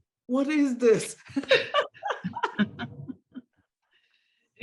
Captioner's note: laughter